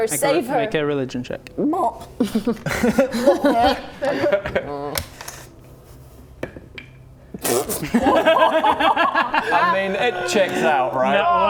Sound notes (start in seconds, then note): 1.6 gulp!